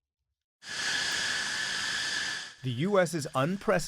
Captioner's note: voice-over